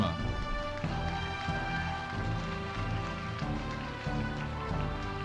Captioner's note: audience applauding